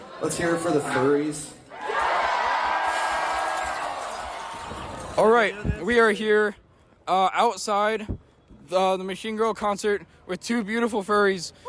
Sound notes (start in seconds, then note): 4.0 slightly louder cheering